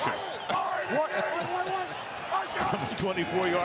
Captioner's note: laughs